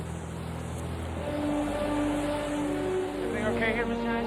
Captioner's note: vehicles whirring; suspenseful music